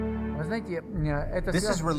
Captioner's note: speaking foreign language